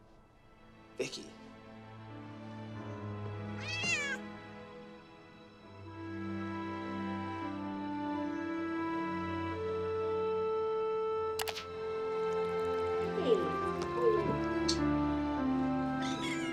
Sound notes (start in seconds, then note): 3.5 cat meows; 5.2 dramatic music; 13.9 dramatic music